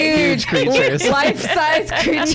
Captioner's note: laughs